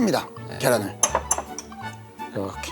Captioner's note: tap, tap